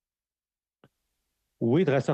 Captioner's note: speaking French